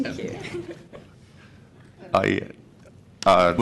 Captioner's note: laughter